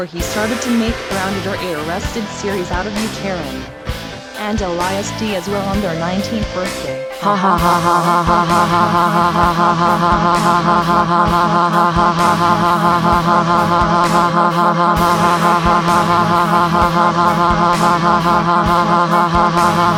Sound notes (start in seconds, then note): 14.0 laughs